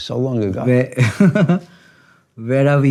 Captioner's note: both laugh